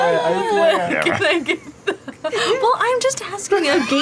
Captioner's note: laughs